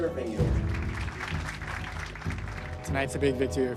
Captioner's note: applause